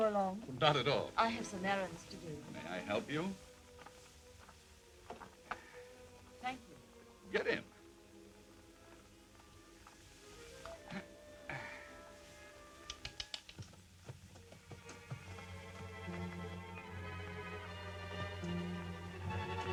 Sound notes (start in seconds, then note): 12.8 tongue clicking; 15.2 eerie music